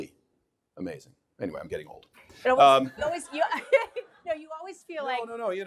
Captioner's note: audience laughing